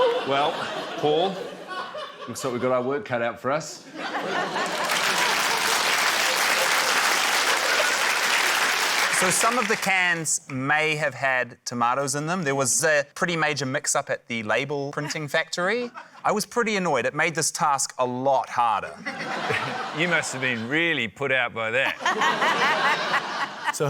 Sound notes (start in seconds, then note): 0.0 giggles; 4.0 laughter, applause; 19.0 laughter